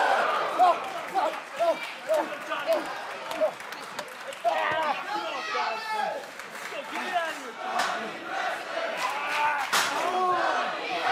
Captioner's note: crowd chatter; crowd cheering